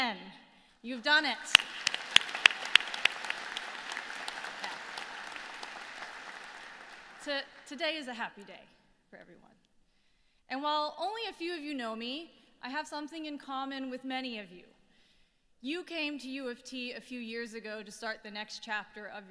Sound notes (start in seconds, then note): 1.0 applause